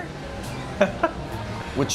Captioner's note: laughing